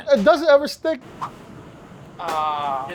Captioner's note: whip sound